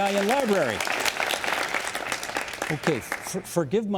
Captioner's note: applauding